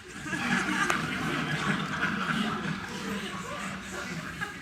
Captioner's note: audience chuckling